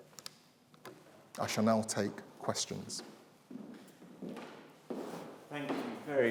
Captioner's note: feet pattering